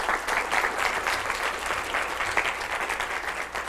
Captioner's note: applause